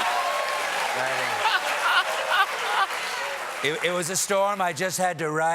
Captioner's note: cheers and applause